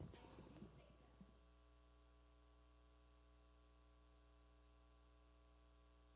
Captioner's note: speaking away from mic